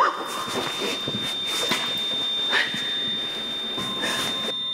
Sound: beeping

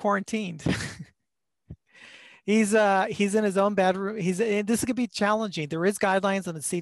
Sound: laughter

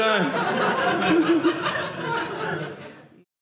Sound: audience laughing

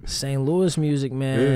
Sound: chuckles

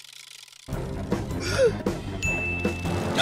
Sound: gasps

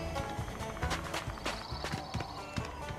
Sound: steps

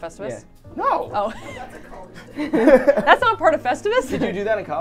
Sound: all laughing

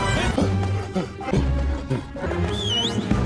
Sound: pitch shifted gasping

